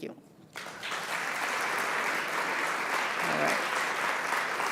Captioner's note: audience applauding